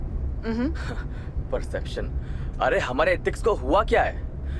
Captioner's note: sneers